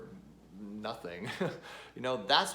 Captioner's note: chuckles